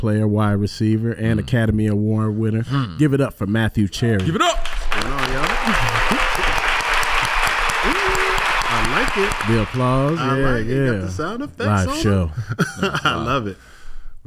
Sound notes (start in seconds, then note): 4.5 crowd applauding; 4.5 crowd applauds; 4.6 applaud; 11.7 laughs